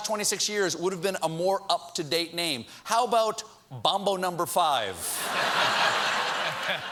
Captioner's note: laughter